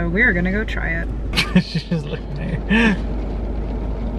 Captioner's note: laughs